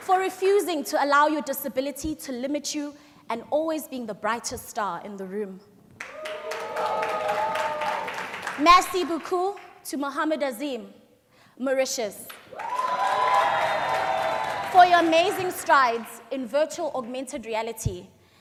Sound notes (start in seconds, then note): 6.0 crowd cheers; 12.4 cheers